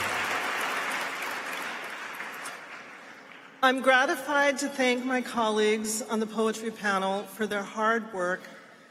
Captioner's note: applause